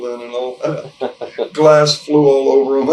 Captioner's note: interviewer 1 chuckles